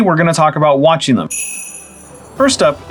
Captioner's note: sleigh bells